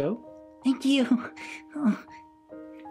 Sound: sighs

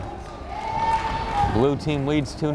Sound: crowd cheering

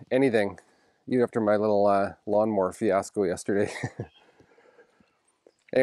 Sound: chuckles

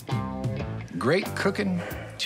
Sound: sighs

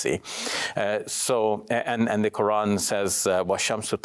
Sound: speaks in Arabic

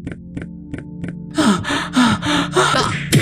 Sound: panting

